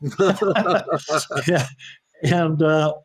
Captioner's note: laughing